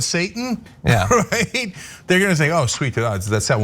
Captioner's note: laugh